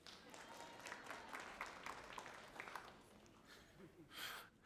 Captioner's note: audience applauding